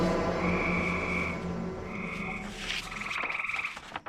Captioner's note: animal chirping; page rustling